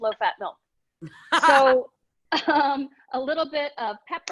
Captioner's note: laughing